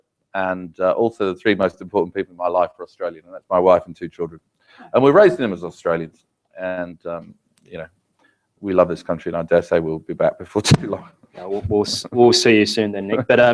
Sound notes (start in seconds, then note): 11.4 laugh